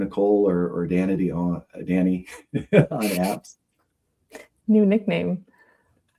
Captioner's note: laughs